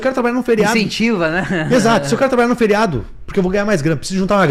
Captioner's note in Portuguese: risadas